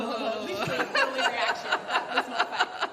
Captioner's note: noises of disgust